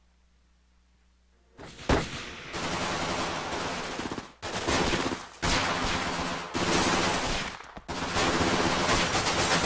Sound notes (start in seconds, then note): 1.6 guns firing